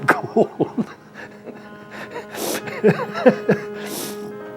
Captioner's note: laughter